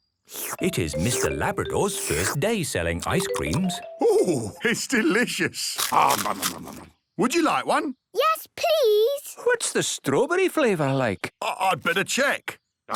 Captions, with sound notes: - It is Mr. Labrador's first day selling ice creams. - Oh! It's delicious! - (crunching) Umm, num, num, num! Would you like one? - Yes, please! - What's the strawberry flavour like? - I'd better check.